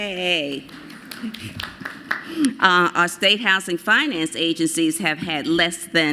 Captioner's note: applause